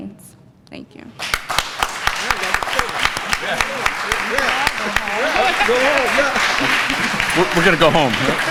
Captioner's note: applause